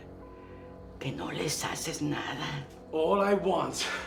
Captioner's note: Spanish